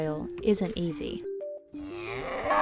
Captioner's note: cow mooing